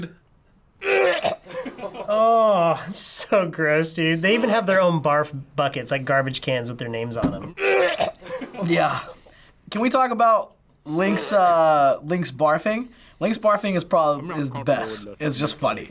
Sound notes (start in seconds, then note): 0.8 Link gagging; 7.6 Link gagging